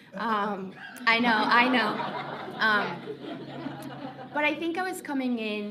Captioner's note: laughing